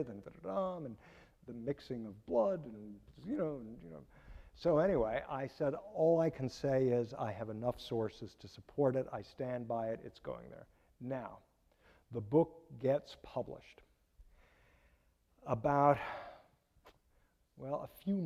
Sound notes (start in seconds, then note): none